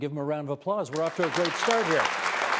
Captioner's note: applause